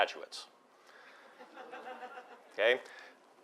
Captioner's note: laugh